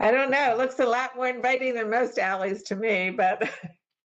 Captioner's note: laughter